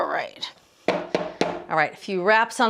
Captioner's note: pan tapping